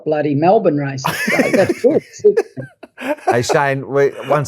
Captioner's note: laugh